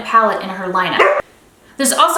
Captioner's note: Nyx barks